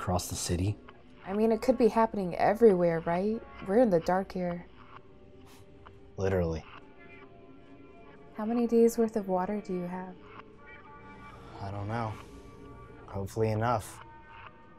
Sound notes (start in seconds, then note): 5.0 scoffs